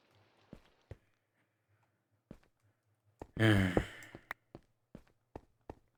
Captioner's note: sigh